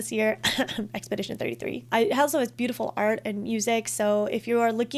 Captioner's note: cough cough